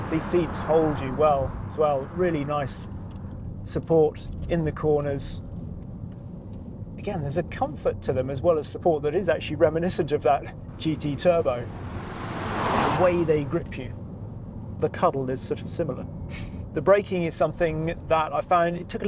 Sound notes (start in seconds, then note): 10.5 car roaring